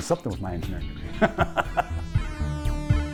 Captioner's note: laughs; arcade music